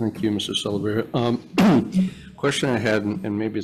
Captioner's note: clears throat